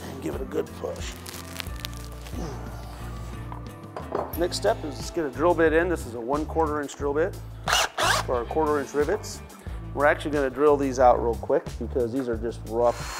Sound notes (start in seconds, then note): 2.4 grunts; 7.6 drill grinds; 12.9 drill grinds